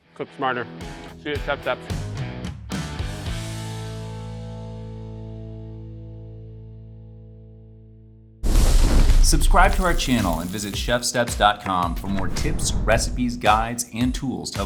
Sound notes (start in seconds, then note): 8.4 fire roars